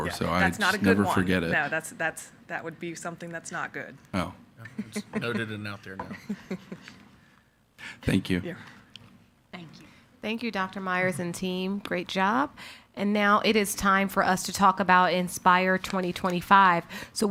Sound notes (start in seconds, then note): 8.0 laughing